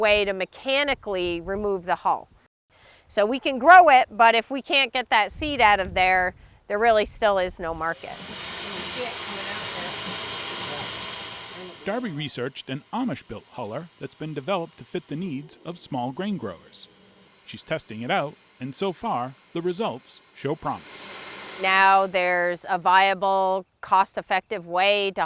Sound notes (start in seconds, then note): 8.4 machine roaring